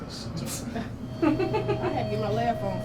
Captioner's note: woman laughs; some chuckling